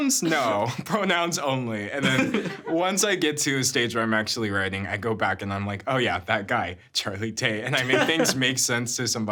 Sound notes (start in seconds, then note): 0.0 everyone chuckling; 2.0 chuckling; 7.7 laughing